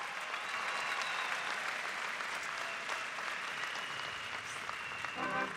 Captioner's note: cheers and applause